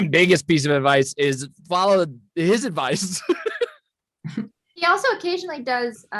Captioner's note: laughs